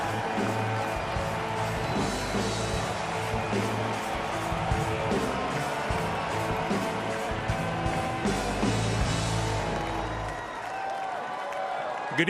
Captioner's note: applause